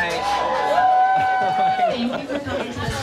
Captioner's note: audience cheering